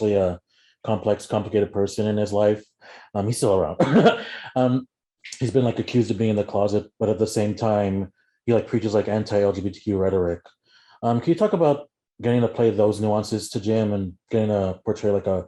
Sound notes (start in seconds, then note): 3.8 laughs